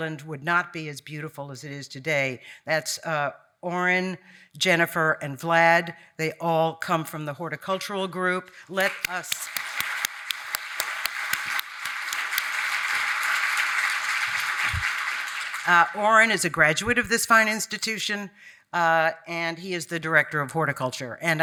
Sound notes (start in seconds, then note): 8.7 audience applauding